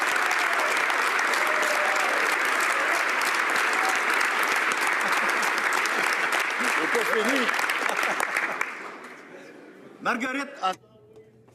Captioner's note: applause